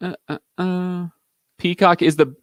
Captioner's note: vocalizing